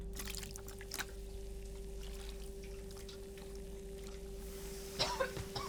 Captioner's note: fizzing and hissing; coughing